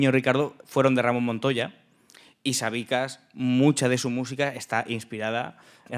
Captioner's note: speaking in Spanish